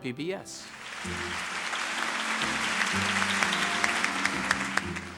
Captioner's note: applause